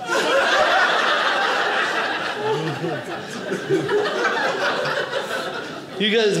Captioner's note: audience laughing